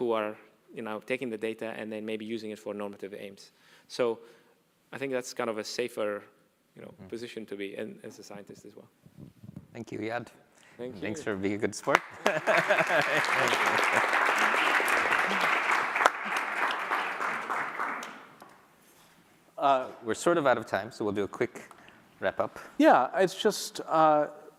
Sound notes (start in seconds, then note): 14.6 applause